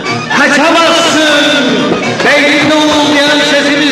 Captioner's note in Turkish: Kavga ortam gürültüsü devam